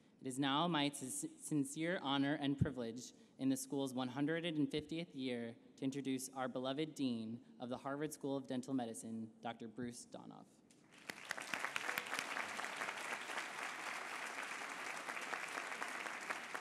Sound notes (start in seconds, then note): 10.9 applause